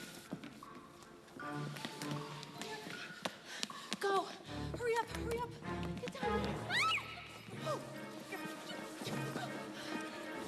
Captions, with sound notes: - GO. HURRY UP. HURRY UP. GET DOWN THERE. - [screams]